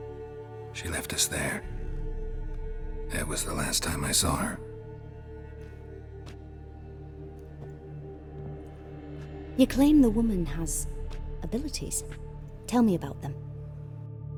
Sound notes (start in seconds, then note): none